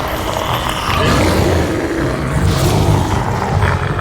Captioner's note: orc growls